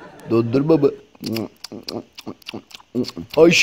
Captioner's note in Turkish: yalanma sesi̇